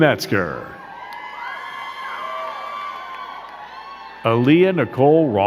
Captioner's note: crowd cheering and clapping